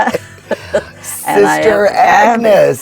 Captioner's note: laughing